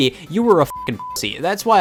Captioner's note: beep